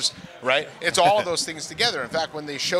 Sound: chuckling

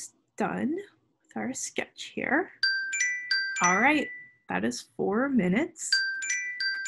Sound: alarm Rings

